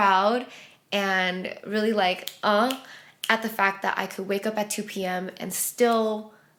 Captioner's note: snaps